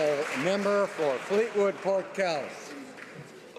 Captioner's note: some Applause